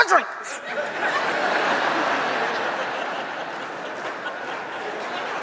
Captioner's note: audience applauds